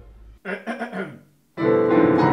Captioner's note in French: raclements de gorge